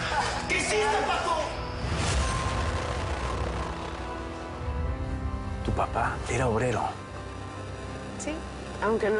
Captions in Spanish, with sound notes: [Risas del asesino] - !¿QUE HICISTE, PACO?! - ¿TU PAPA ERA OBRERO?